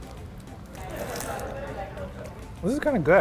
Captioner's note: chewing